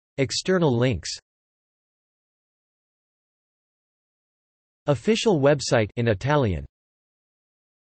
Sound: in Italian

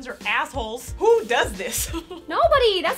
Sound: laughs

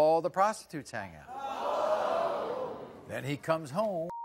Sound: audience gasps

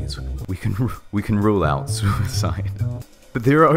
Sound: laughing

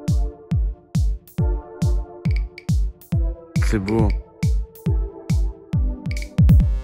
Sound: upbeat music; speaking in foreign language

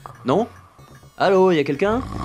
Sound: person snoring

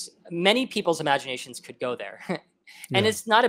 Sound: laughs

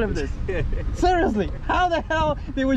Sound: laughs

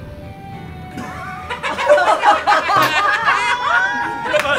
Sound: all laugh

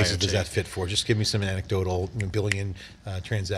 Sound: snaps fingers

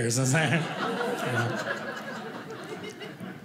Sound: audience laughing

